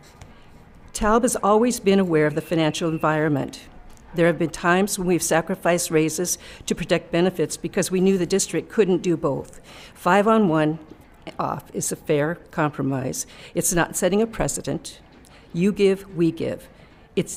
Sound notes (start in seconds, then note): none